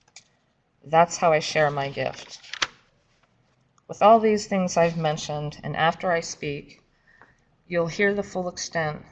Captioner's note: paper shuffling